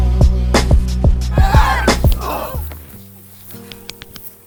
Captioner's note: screams